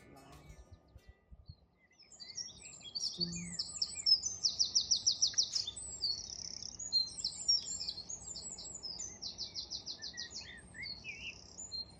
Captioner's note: birds singing